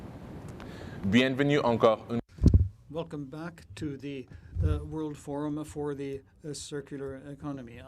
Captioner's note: speaking in French